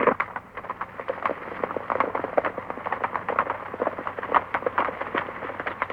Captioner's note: hooves clopping